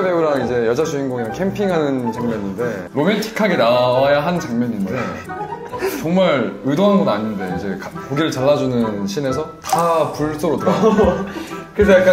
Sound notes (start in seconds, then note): 4.8 giggling